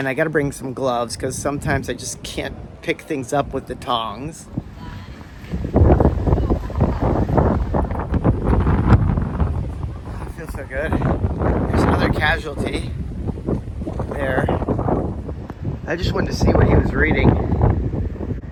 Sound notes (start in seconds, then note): 4.8 wind